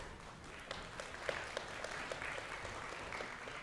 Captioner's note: applause